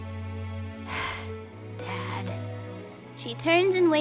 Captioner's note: sigh